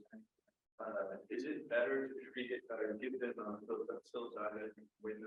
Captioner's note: speaking faintly